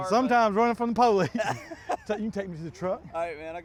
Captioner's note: laughs